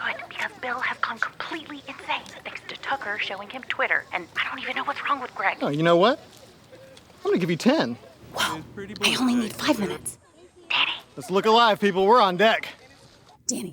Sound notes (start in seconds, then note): 8.4 whispering